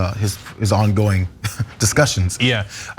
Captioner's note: laugh